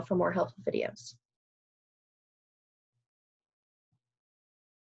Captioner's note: silence